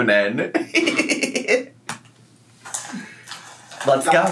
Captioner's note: laughs